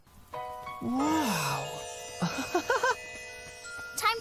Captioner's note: laughing